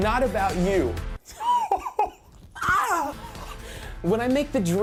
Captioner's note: laughs